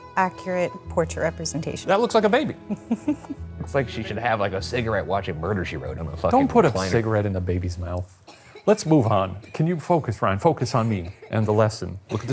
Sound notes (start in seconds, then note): 2.7 chuckling; 8.2 baby coughing